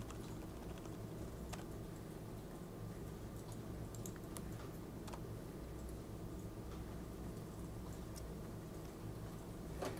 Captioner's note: typing